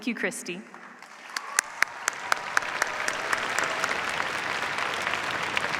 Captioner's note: cheers, applause